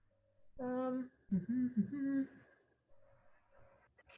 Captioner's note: humming